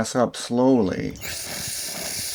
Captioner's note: hissing sound